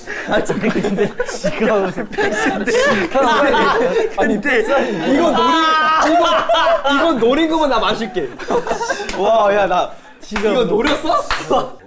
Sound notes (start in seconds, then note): 0.0 haha; 5.3 screaming